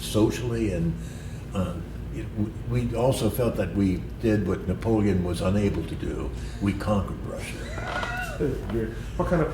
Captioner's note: laughter